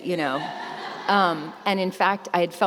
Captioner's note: laughter